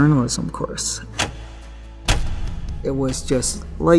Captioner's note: light switches clicking